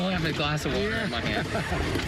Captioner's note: laughter